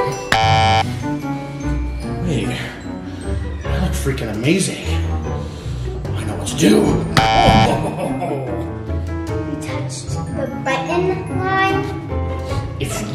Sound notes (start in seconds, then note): 0.3 buzzing; 7.2 buzzing